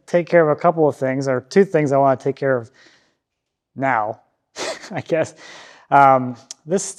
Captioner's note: laughs